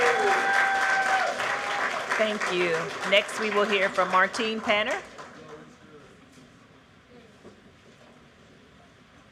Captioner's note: cheers and applause